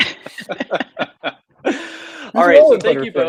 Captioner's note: laugh